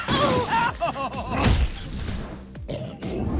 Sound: laughs; thudding

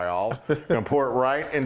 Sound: laugh

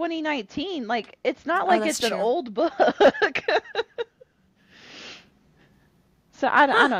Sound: laughter

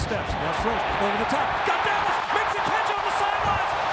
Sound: crowd cheering

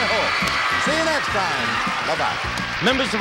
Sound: applause

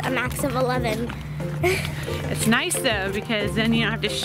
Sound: laughs

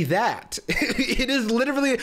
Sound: laughs

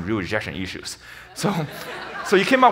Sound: audience laughs

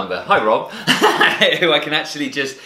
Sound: laughing

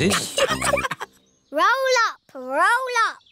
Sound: all laughing

